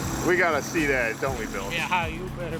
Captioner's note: voiceover